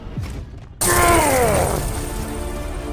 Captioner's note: Knuckles Painful Grunt